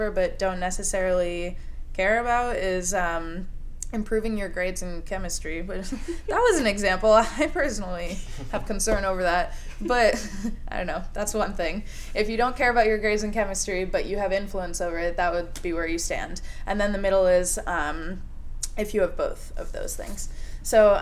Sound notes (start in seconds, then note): 5.8 laughter